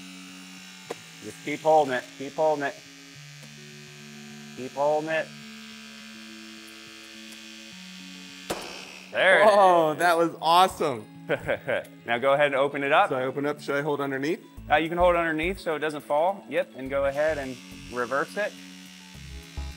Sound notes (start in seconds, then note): 0.1 mechanical whirring; 8.5 mechanical popping